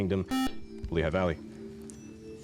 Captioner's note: buzzer